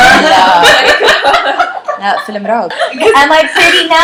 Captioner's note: laughter